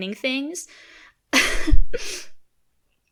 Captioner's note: chuckle